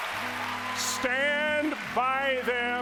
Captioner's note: applause